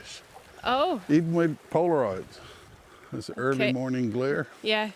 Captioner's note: rain pattering